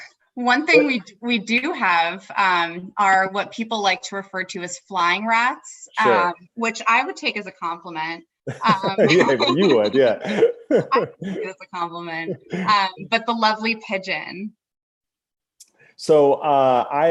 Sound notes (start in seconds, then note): 8.4 laughter; 8.4 laughs